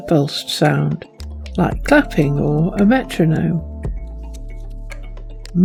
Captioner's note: like clapping or a metronome